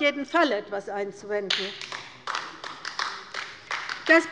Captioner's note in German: Beifall bei der LINKEN